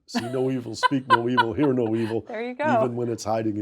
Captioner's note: Rana laughs